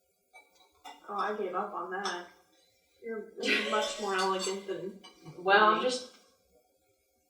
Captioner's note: laughs